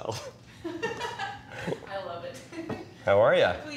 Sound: laughs

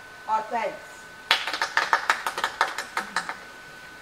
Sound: applause

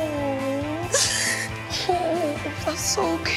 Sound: sobbing

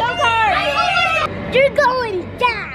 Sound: cheering

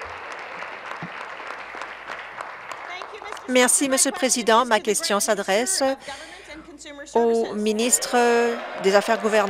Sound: applause

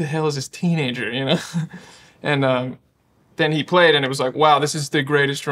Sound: laughing

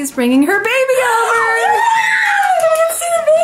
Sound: girls scream

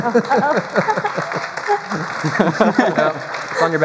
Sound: applause; laughter

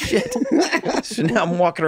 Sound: Rob and Charlie giggles

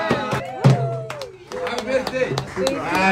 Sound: crowd cheering

